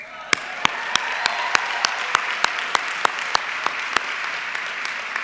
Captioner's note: audience cheering and clapping